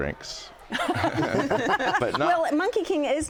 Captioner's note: laughing